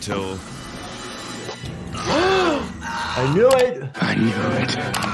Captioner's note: dramatic music; gasping